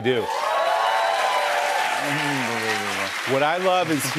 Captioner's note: cheers and applause